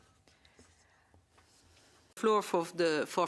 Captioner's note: speaking French